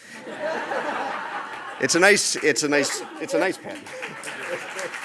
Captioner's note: audience laughs; audience applauds